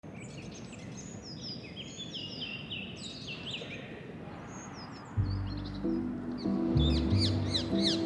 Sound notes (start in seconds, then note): 0.0 birds chirping; 5.1 gentle music